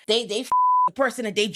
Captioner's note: beep